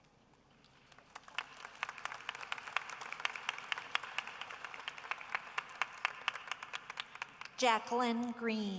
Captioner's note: applause